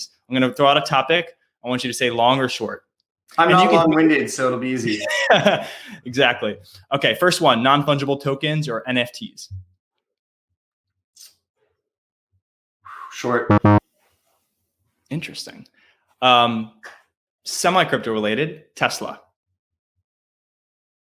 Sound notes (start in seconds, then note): 4.8 laughing; 12.9 exhales sharply; 13.5 buzzer buzzing